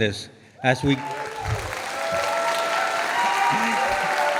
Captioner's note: audience applauding